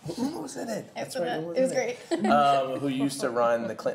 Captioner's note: laughs